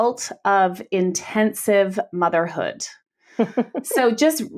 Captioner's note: laughs